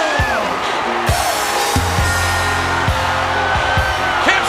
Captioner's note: crowd cheering